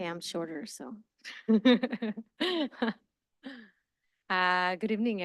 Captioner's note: laughs